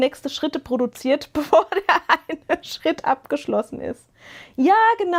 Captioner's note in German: gelächter